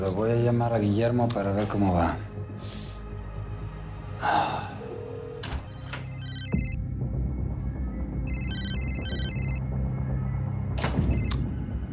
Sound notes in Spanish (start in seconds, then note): 4.6 Suena el celular